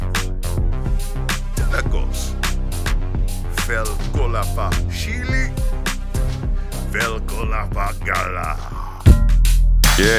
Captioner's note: speaking new language